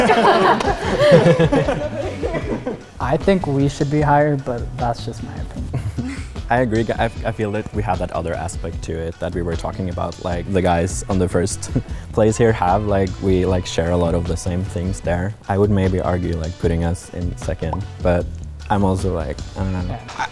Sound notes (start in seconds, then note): 0.0 everyone laughing; 5.6 laughs